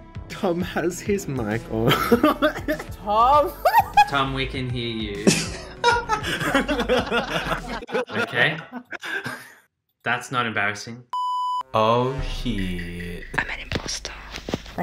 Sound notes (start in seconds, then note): 3.4 laughing; 5.2 all laughing